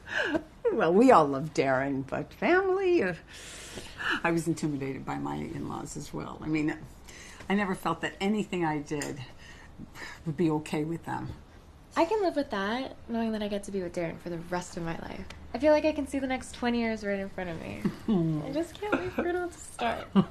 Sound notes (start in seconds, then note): 3.3 inhaling sharply